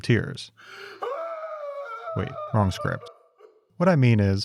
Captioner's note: screams in anguish